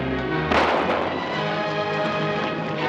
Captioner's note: gunshot